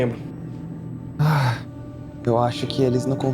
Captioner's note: sighs